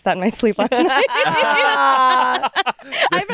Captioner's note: all laugh